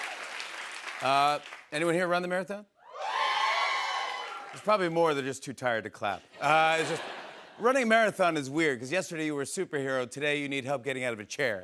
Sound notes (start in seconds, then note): 2.9 scattered cheers